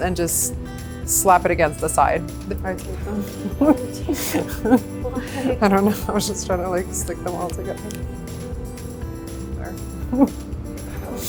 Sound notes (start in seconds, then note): 3.1 laughs; 8.5 light music